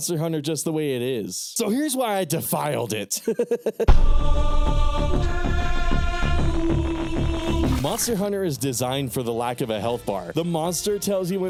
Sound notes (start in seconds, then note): 3.1 laughing